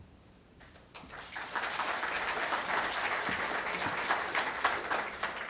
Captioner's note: crowd applauds